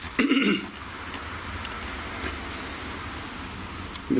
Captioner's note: clears throat